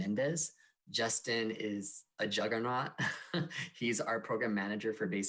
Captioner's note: laughs